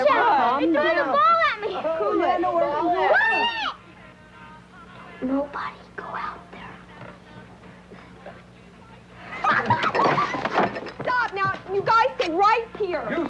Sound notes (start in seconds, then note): 5.3 whispering; 9.2 laughing